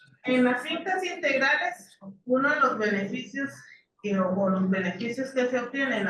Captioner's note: speaking in foreign language continues